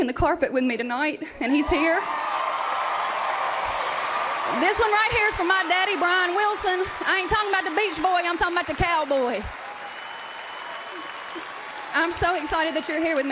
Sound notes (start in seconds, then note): 3.8 cheers and applause